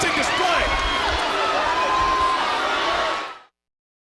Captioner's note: crowd clamoring